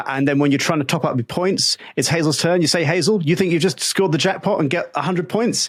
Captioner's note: none